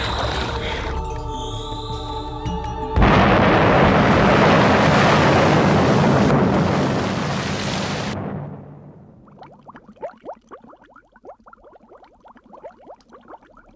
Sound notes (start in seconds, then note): 3.0 explosion